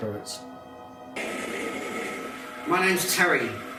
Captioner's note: continuous crackling sound of the spirit box is heard